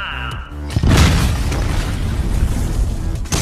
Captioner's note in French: énorme fracas